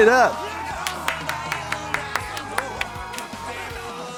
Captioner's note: Trixie claps